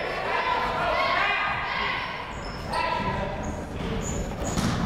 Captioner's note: people shouting in the crowd